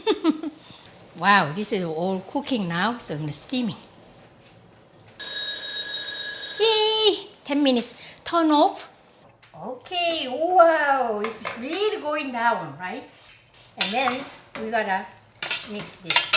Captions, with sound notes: (laughs) Wow, this is all cooking now, so it's steamy. (bell ringing) Yay! 10 minutes! Turn off. Okay, wow, it's really going down, right? And then we're gonna mix this.